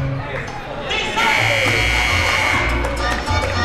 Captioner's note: buzzer rings; upbeat Latin music